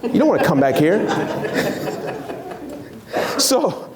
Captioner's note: laughs